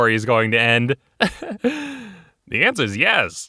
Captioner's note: chuckles